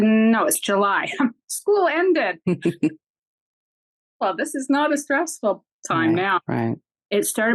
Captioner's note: chuckles